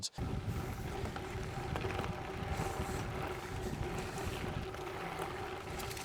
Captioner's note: bike engine roaring